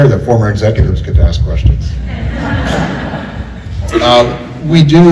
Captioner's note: laughter